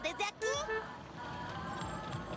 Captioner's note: car horn toots